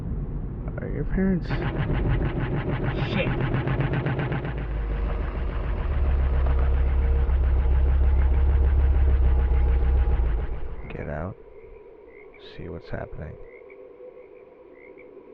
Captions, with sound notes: Are your parents- [CAR MAKES CHUGGING NOISE] Shit. [CHUGGING CONTINUES] Get out. See what's happening.